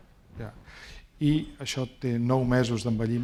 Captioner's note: speaking spanish